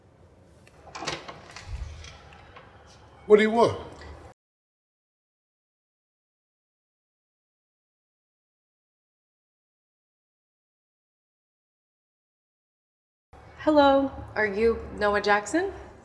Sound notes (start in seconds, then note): 0.6 door opening